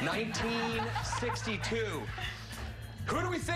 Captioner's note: laughter